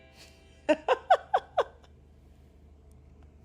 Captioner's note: laughter